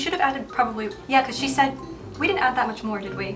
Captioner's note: none